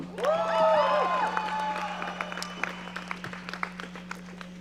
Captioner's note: audience cheering